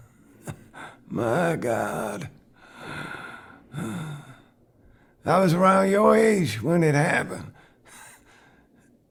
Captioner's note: labored breathing